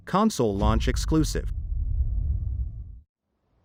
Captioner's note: dramatic sound